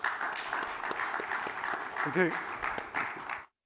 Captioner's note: applause